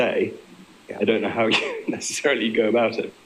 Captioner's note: laughing